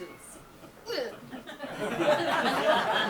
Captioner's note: Cecily gags; audience laughs